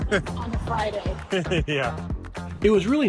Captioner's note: laughs